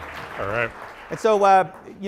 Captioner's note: applause